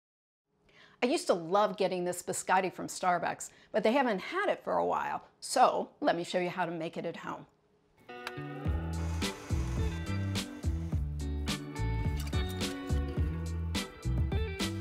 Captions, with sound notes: - I used to love getting this biscotti from Starbucks, but they haven't had it for a while, so let me show you how to make it at home. (gentle upbeat music) (mixer whirring) (gentle upbeat music)